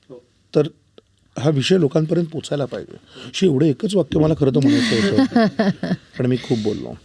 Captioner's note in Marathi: हास्य